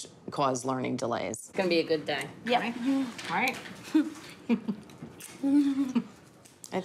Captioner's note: both chuckle